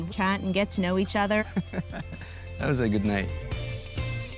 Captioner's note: giggles